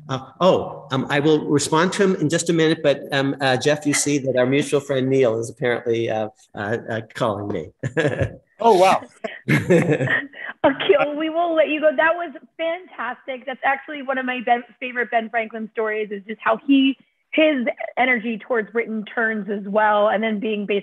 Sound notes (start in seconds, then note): 7.8 laughter